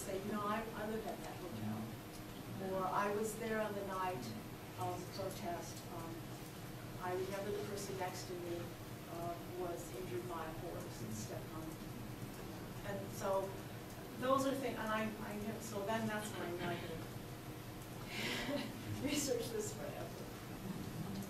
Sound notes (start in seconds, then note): 17.7 laughs